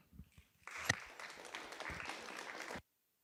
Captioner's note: applause